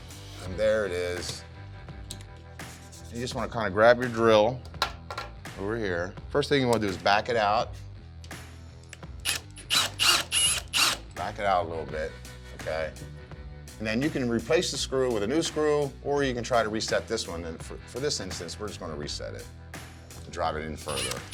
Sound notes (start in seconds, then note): 9.2 drill whirring